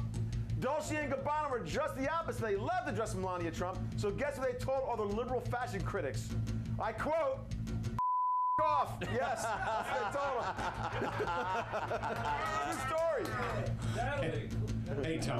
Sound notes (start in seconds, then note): 9.0 laughter